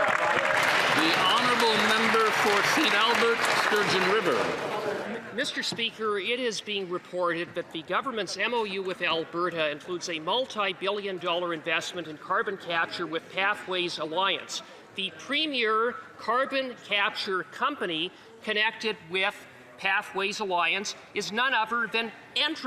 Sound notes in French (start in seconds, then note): 10.5 voix de l'interprète